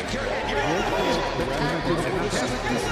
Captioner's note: shouting